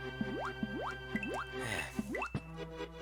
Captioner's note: sigh